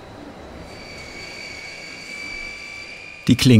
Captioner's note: whirr